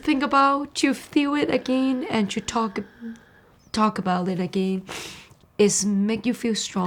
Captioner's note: sniffs